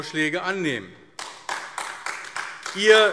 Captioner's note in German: Beifall AfD